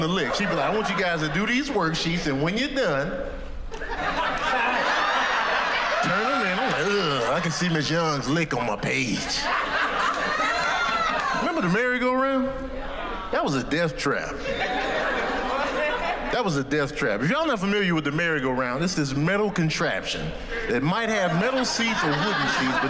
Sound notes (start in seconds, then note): 3.7 laughter; 14.4 laughter